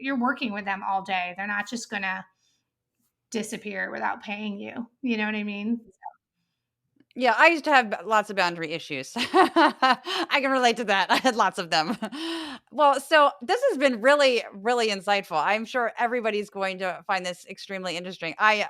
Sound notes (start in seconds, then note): 8.9 laugh